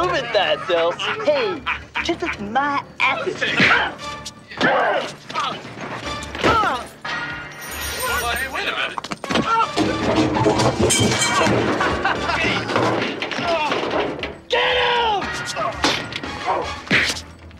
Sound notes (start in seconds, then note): 6.2 fight sounds; 7.3 magic sounds; 11.4 fight sounds and laughing; 14.4 fight sounds